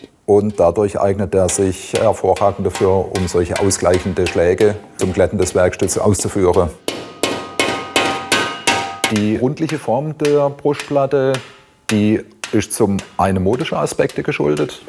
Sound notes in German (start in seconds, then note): none